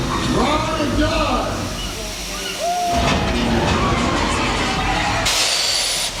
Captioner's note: vehicles whooshing